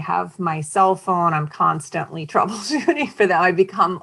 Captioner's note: chuckling